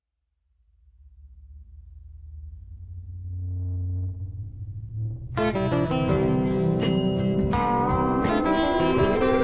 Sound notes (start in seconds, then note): 3.7 deep tone rising